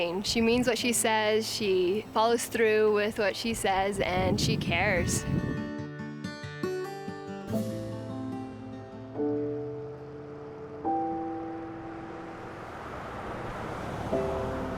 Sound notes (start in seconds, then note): 5.0 guitar music; 11.0 engine accelerating